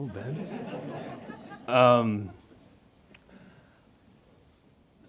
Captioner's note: audience laughs